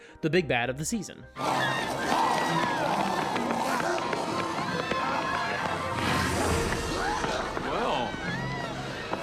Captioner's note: screams; snarling